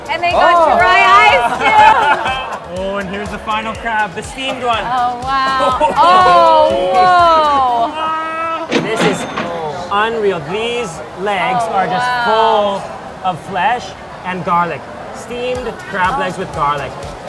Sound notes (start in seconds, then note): 8.6 cash register ringing